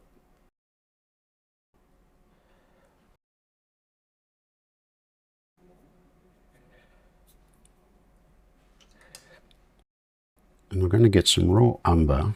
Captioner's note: silence